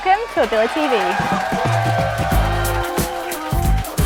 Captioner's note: applause